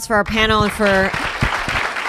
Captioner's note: applause